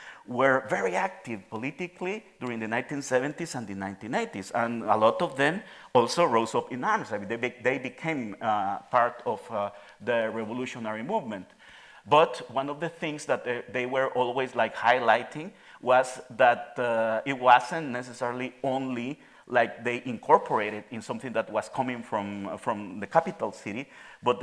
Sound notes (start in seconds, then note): 5.7 speaking in Spanish